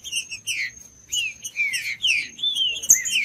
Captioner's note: trinca ferro cantando